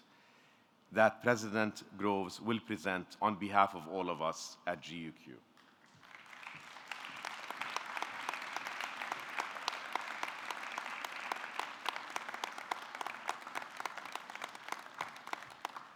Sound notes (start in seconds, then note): 6.3 audience clapping